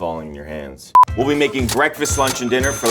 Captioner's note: cash register dings; note beeps